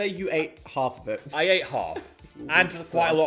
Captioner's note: chuckling